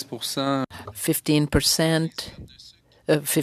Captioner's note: speaking French